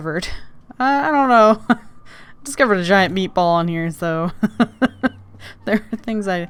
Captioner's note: laughs